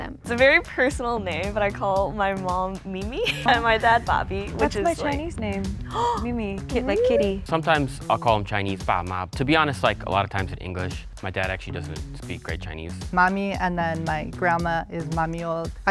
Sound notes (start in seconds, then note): 6.0 gasps; 14.6 speaks foreign language